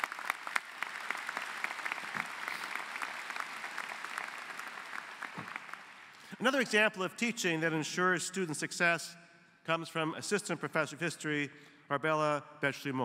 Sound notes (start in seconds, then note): 1.7 applause